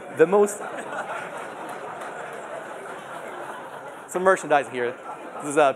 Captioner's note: laughter